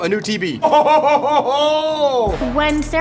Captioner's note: laughs